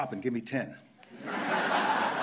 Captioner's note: laughter